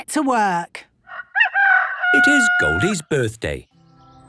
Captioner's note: rooster crowing